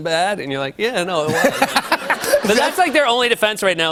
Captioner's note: laughter